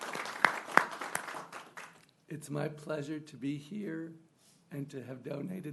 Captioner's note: applause